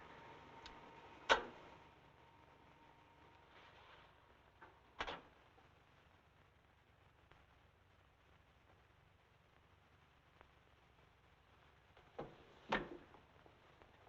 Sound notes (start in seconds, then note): 1.8 receiver thumping; 1.8 switch clicking; 13.2 chair rattling; 13.2 coat rustling